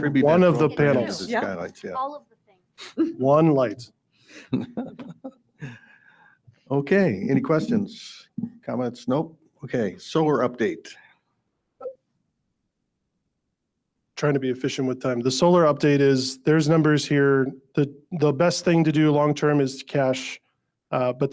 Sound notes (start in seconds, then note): 4.4 laughs